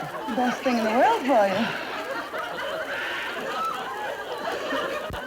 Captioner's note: audience laughter